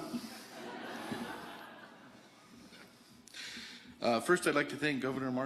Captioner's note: audience laughing